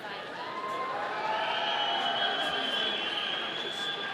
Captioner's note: audience cheering